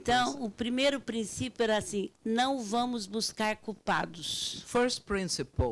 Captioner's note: speaking Portuguese